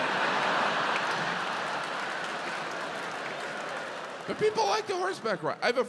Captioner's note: audience cheering, applauding